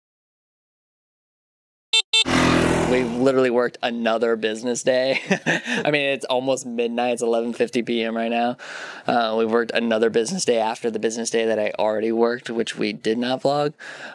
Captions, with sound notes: (engine zooming) - We've literally worked another business day. (laughter) I mean, it's almost midnight. It's 11:50 PM right now. We've worked another business day after the business day that I already worked, which we did not vlog.